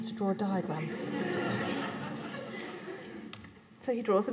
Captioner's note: laughter